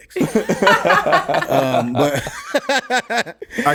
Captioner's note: laughs